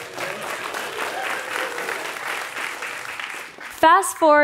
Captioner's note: applause